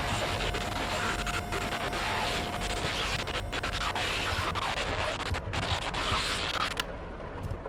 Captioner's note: glitchy sounds